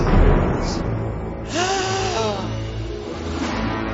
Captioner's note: gasp